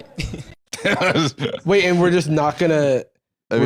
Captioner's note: laughs